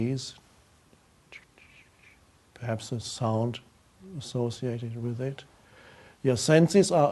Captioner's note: faintly whistles